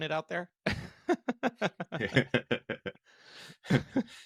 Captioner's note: both laughing